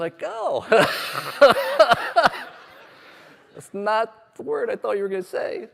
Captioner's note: laughter